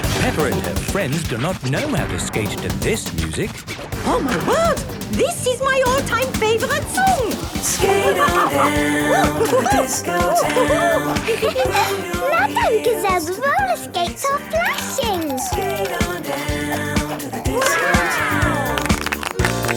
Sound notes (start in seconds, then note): 7.7 laughing and exclaiming